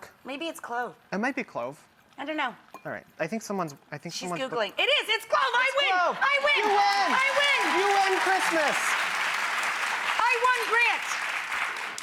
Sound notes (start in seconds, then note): 6.1 audience cheering